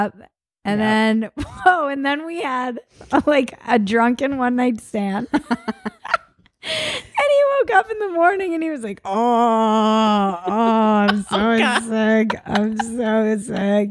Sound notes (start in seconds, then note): 5.4 both laugh; 9.0 moaning